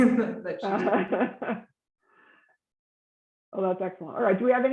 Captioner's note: general laughter